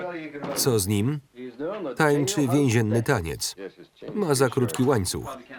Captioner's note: chanting in foreign language